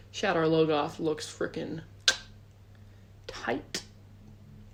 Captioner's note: clicks tongue